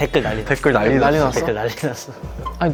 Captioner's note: NCTzen going crazy